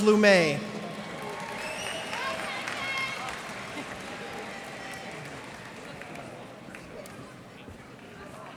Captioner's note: cheers and applause